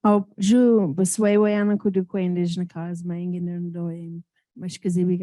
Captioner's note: speaking in foreign language